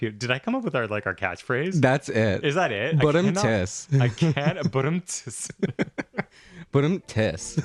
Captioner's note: laugh